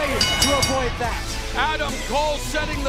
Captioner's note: bell ringing